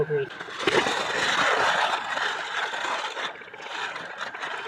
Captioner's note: foil crinkling